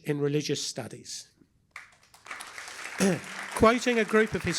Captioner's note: applause